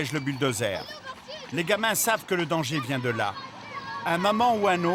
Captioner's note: Hebrew spoken audio